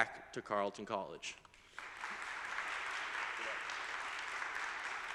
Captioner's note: audience applauding